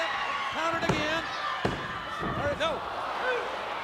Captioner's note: referee tapping